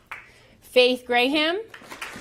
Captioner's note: applause